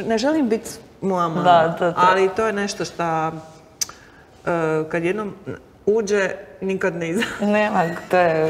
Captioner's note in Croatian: smijeh